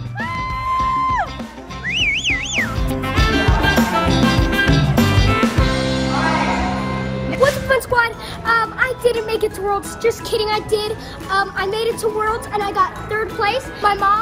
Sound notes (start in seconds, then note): 0.2 mom cheering; 1.8 whistling sound effect; 2.9 upbeat music